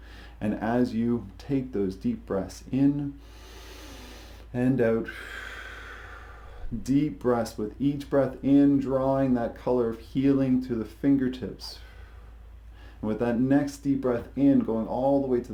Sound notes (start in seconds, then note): 3.3 inhales deeply; 5.0 exhales deeply